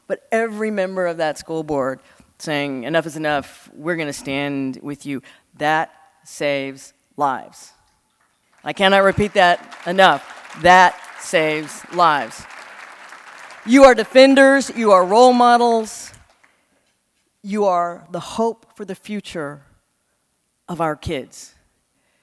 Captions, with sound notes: but every member of that school board saying, enough is enough. We're going to stand with you. That saves lives. I cannot repeat that enough. That saves lives. (audience clapping) You are defenders. You are role models. You are the hope for the future of our kids.